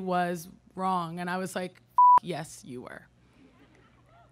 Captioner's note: beep